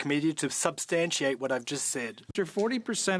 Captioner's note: speaking French